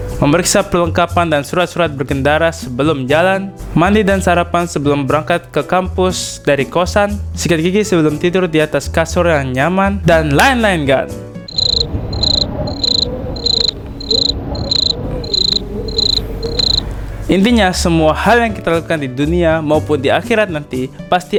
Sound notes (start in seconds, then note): 11.5 sound of wind; 11.5 cricket voice